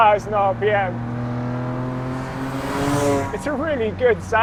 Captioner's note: engine roaring